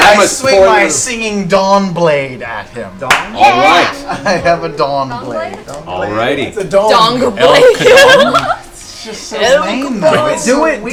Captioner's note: laughs